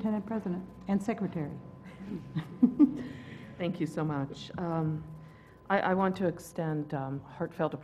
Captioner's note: laugh